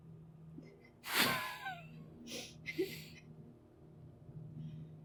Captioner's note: laughing